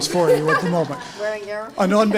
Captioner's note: laugh